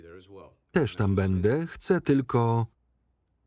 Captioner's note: phone cuts off abruptly